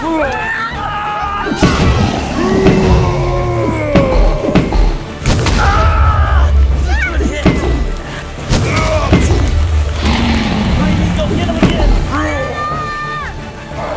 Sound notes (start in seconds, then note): 2.9 roars continue; 5.6 screams continue